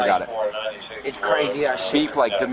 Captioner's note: radio chatter